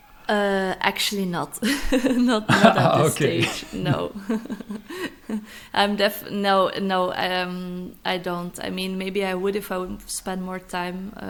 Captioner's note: laughs